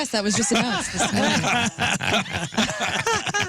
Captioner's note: laughing